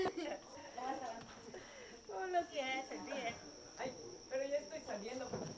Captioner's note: chattering and laughing